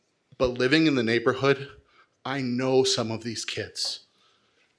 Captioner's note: none